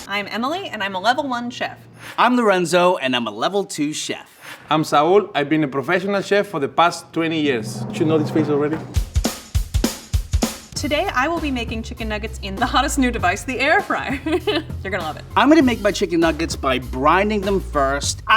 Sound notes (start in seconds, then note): 9.0 upbeat music; 14.5 laughs